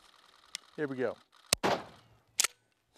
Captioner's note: bang